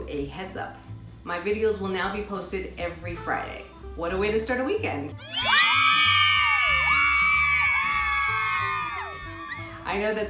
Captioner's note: womens cheering